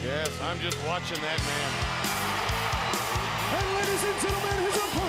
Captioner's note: crowd cheering